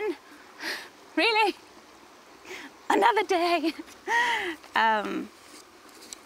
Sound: laughs

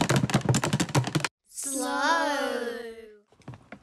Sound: kids call out

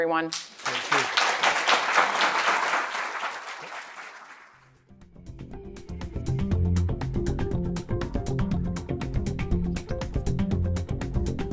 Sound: applause

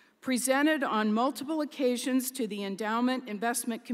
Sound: none

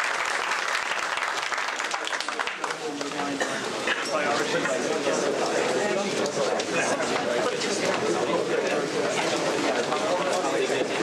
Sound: applause; background chatter

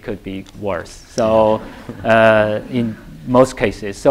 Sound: laughter

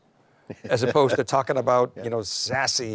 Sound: chuckles

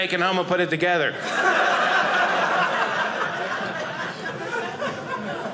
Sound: audience laughing

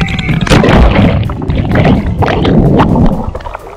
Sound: screams; water splashing

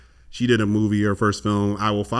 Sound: none

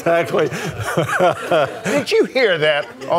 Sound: congregation laughs

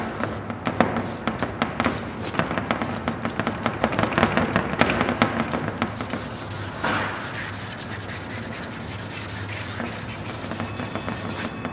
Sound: sound of drawing

